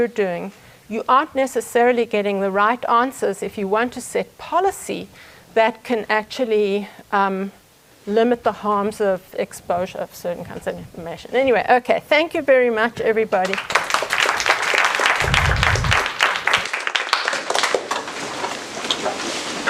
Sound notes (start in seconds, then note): 13.4 applause